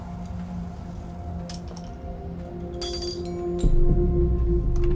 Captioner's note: metal clanging